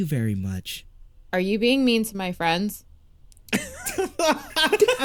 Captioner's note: cast laughter